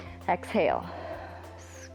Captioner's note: exhales; inhales